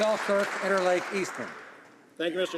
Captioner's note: some Applause